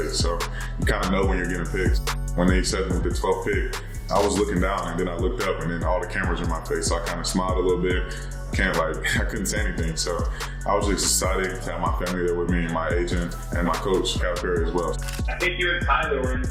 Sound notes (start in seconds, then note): 15.0 camera lens clicking